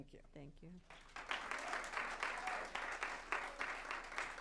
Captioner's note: applause